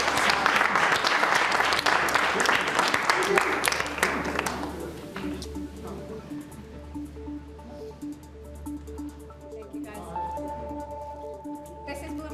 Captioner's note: applause